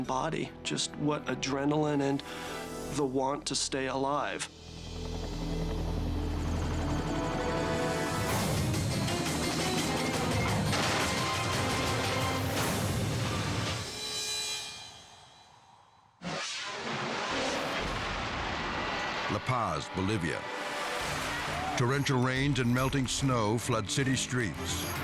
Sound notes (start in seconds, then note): 4.7 helicopter rumbling; 7.7 dramatic music; 10.5 helicopter crashing; 12.8 dramatic music; 16.2 screen whooshing